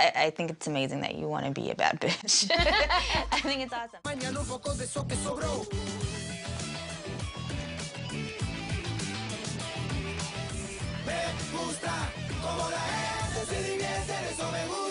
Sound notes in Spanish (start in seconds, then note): 2.1 laughs